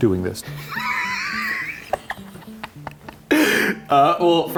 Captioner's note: laughing